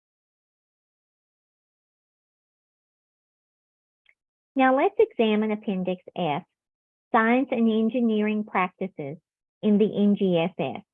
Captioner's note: silence